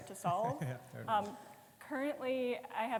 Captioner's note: chuckling